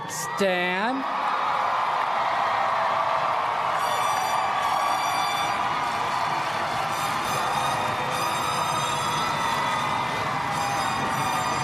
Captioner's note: applause